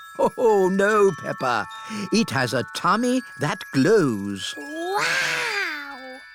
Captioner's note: laughs